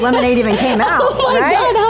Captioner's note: laughing